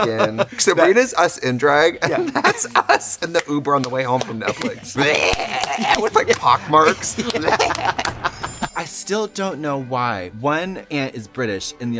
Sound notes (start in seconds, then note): 5.2 growling; 7.3 clapping; 7.3 laughing